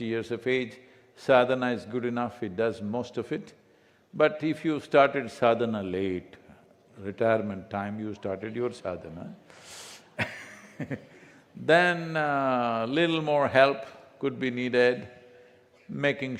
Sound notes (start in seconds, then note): 11.5 laughs